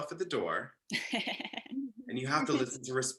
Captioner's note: laughs